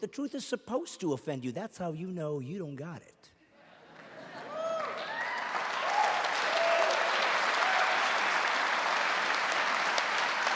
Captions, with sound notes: The truth is supposed to offend you. That's how you know you don't have it. [laughing and cheering]